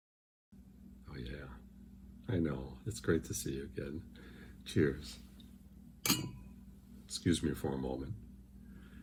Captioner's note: clink of glasses